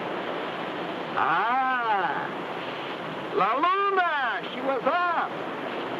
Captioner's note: speaks in foreign language